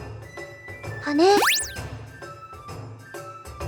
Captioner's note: upward brushstroke